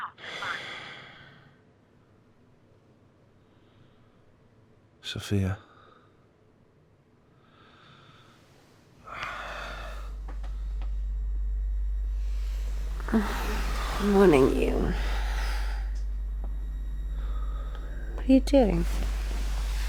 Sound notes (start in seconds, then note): 0.3 Jamie sighs; 7.4 Jamie sighs